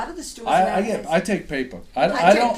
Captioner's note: voiceover